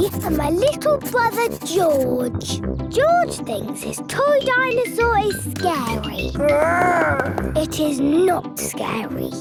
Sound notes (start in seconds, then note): 6.4 growls